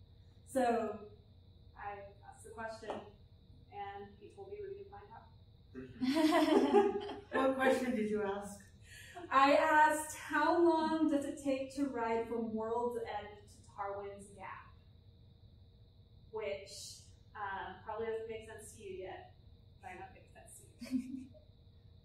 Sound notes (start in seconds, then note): 6.0 laughter